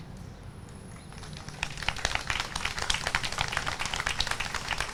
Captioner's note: audience applauds